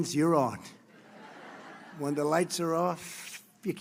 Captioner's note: laughter